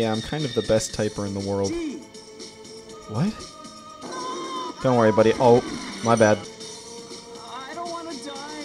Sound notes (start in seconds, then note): 4.0 screams